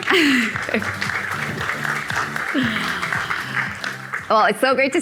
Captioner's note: audience clapping